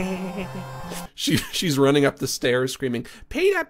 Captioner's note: laughs; normal voice; Imitating Lois Griffin